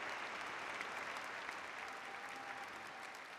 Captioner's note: cheers and aflaws